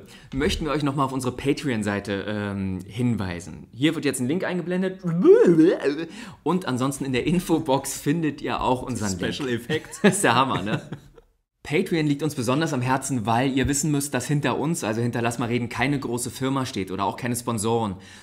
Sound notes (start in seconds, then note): 5.0 imitates a sound; 9.5 laughs